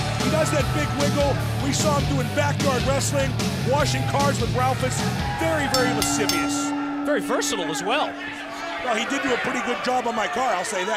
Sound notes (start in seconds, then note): 7.5 bell ringing